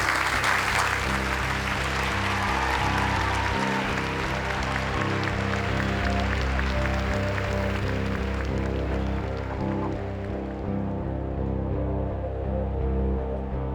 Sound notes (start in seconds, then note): 3.4 cheers and applause